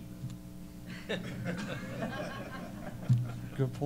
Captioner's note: laughter